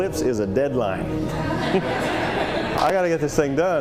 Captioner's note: laughter